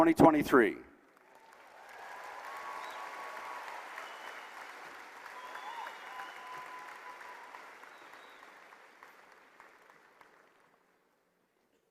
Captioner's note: applause